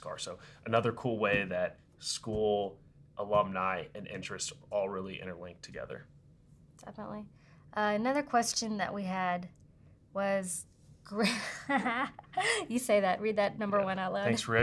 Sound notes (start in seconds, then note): 11.1 laughs